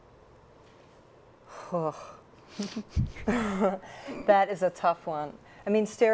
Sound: sighs

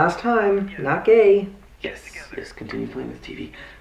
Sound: whispers

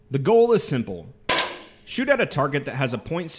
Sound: small shot fired

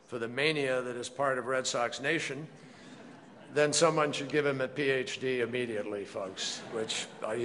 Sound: laughter

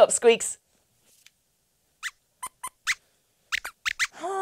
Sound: squeaks squeaks

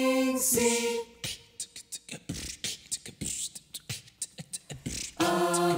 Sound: beatboxing

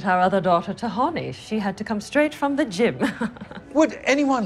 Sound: chuckles

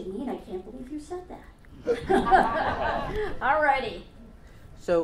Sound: audience laughs

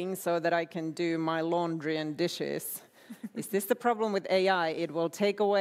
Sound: laughter

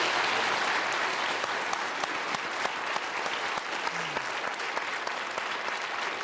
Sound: applause

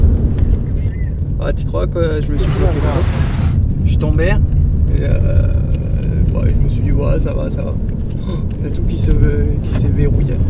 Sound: wind

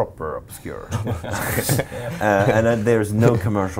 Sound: laughing

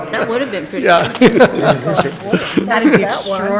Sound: people laughing

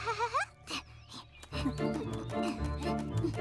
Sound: chuckles; Pinkfong and Hogi panting

